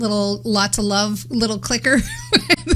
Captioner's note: laughs